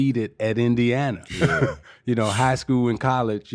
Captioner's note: laughing